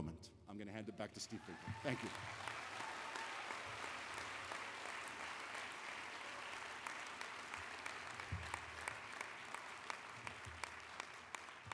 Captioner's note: applause